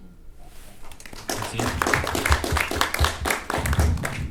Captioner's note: attendees clapping